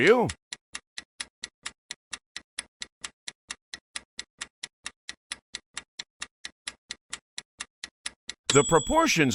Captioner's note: sound of stopwatch ticking